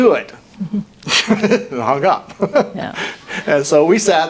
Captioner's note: laughs